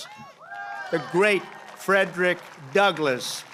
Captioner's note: applause